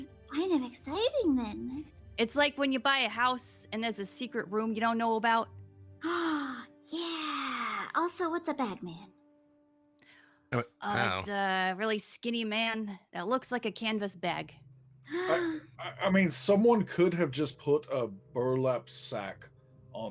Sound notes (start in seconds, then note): 10.0 gasp